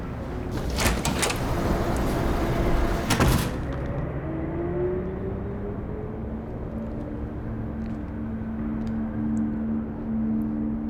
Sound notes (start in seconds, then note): 0.0 door clicking; 3.4 door thudding; 3.4 traffic whirring outside; 6.8 low tense music